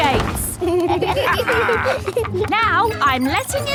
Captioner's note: kids and captain dog laughing